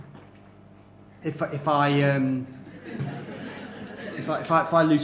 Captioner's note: laughter